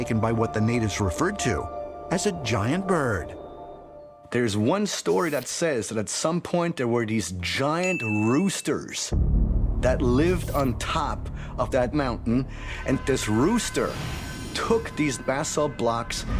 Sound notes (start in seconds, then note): 7.8 ding